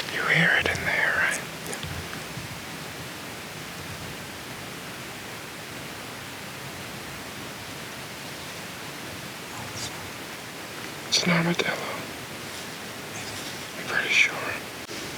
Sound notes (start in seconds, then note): 11.7 whispers